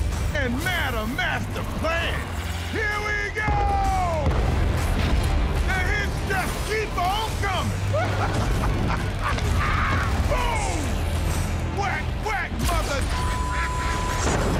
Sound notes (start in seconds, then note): 7.8 laughing